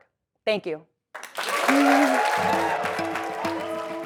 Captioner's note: applause